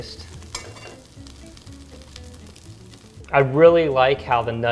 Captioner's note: pan sizzles